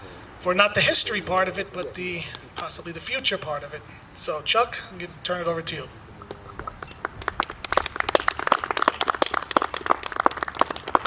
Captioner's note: applause